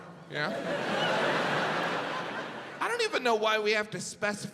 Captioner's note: audience laughs